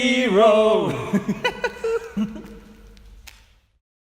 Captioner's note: giggles